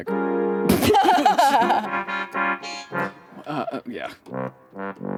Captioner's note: both laugh